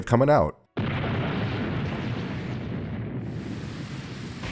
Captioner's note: thunderclaps